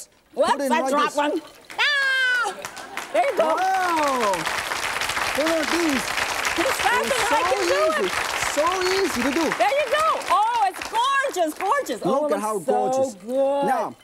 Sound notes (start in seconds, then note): 1.7 softly yells; 4.0 audience clapping